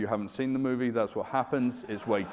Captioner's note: audience laughing